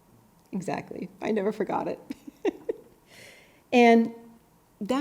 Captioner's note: chuckles